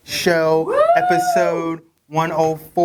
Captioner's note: cheering